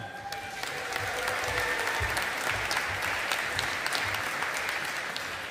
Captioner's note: audience applauding